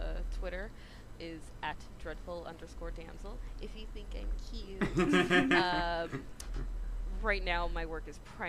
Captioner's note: laughter